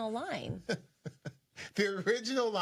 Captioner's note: laughs